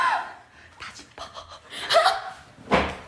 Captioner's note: ha ha